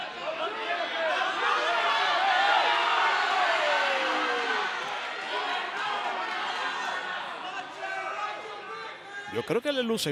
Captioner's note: applause